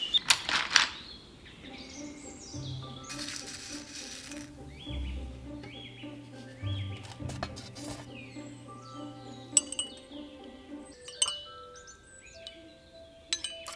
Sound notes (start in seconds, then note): 0.2 pencils rustle against each other; 3.0 rustling; 9.4 spoon stirring in tea cup